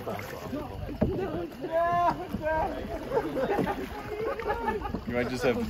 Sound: random talking/laughing/agony

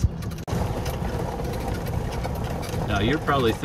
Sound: gravel crunching

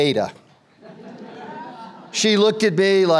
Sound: audience laughter

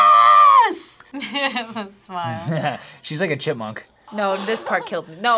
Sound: chuckles

